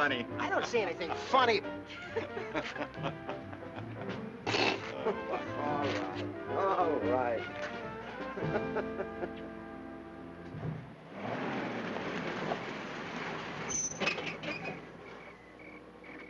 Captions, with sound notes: - I don't see anything funny. (laughing) All right, all right.